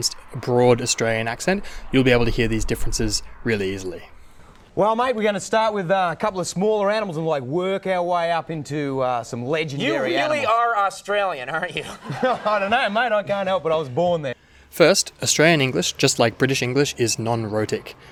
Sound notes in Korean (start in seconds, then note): 5.2 강력한 호주억양으로 말하는 중; 12.8 더욱 강력한 호주억양